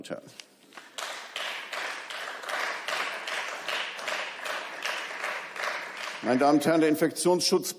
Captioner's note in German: Beifall